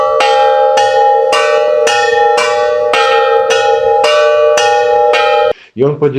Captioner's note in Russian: колокольчик